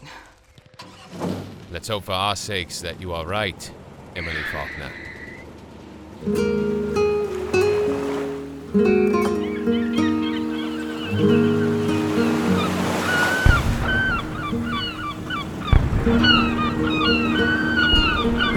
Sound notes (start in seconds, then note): 6.1 sound of seagulls; 10.6 waves crash against pier; 13.3 Distant explosions rock Chicago skyline; 18.4 car drives